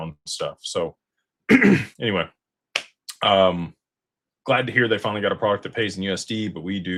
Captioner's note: clears throat